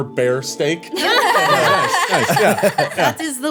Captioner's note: everyone laughing